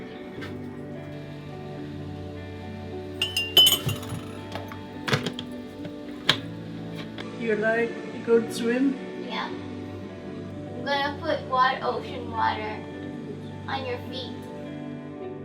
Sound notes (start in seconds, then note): 0.3 spoon clinking; 5.4 lid clunking